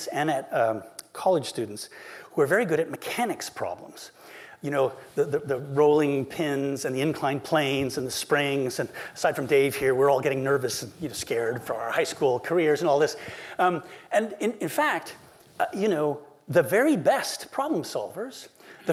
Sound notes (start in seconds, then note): none